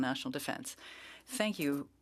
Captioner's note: speaking French